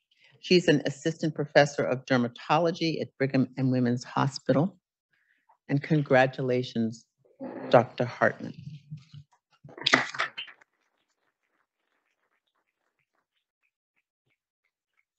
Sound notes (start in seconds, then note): 9.7 audience applauding